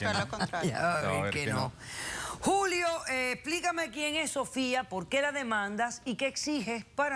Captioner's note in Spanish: risas